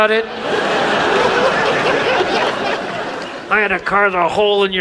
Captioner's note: audience laughs